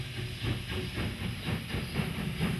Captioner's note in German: Schneller werdendes Schnaufen